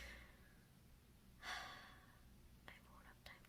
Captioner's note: +sigh+